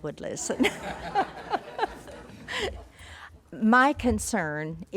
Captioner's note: group laughing